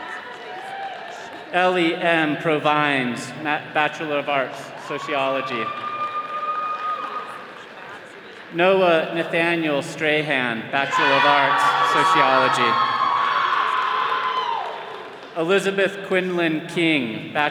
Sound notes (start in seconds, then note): 6.0 attendees cheering; 12.6 all cheering